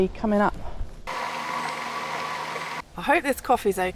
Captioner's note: bubbling